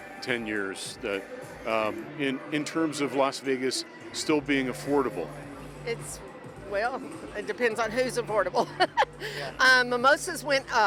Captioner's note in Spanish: risas